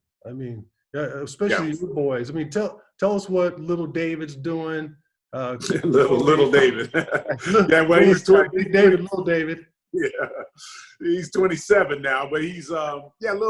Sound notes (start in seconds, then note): 5.4 laughs